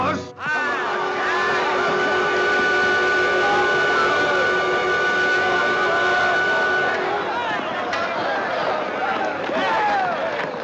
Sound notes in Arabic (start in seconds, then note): 3.3 الناس يتحادثون